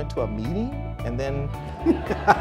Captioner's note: crowd laughter